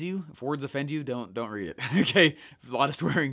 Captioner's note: laughing